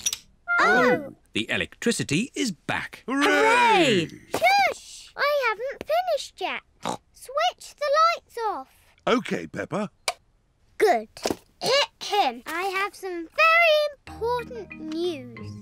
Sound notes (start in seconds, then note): 6.8 snorts